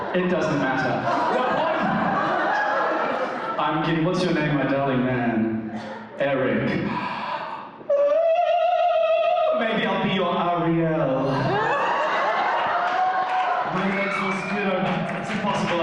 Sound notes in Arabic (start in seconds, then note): 6.8 يتنهد بصوت عالٍ; 8.2 يغني نغمة صوتية; 11.2 الحشد يهدر من الضحك